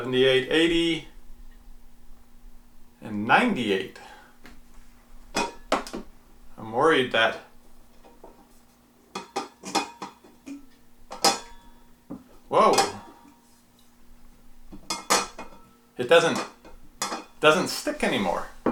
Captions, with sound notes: 78, 80. And 98. I'm worried that ... (clanging) Whoa. It doesn't stick any more.